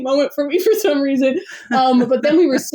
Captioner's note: laughs